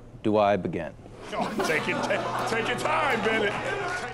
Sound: laughter

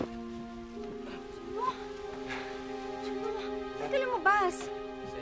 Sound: grunting, panting

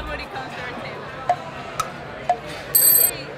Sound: ticking

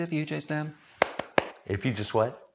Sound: clapping

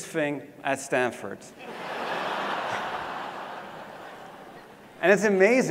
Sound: laugh

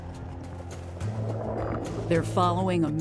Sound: water gurgling

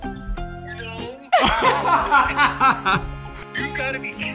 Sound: laughter

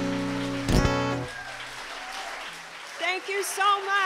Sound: applause

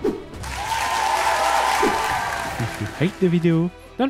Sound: crowd applauses

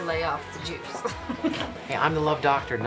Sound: Erin chuckles

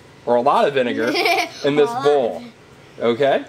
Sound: laughing

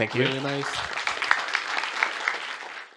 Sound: applause

